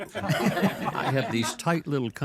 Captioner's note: all laugh